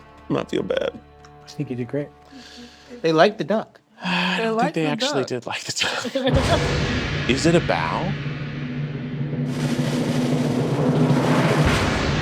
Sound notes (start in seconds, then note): 0.0 poignant music continues; 5.7 all laughing; 6.3 ominous music; 9.2 drum roll music